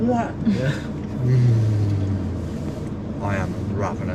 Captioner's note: laughing; groaning